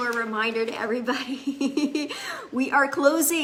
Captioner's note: laughs